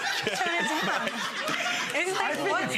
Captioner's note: audience laughs